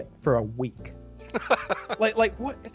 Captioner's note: laughs